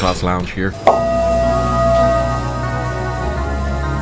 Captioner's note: bowl rings